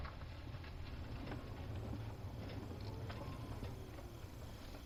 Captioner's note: crickets chirping